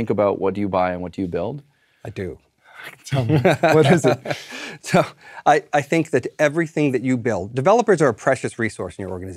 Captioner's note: laugh